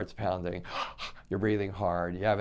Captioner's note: gasps